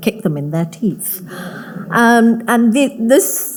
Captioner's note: audience laughing